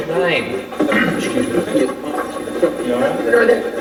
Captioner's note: clears throat